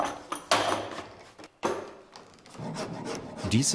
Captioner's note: clattering, grinding noises